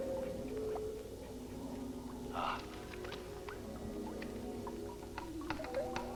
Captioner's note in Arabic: قطرات الماء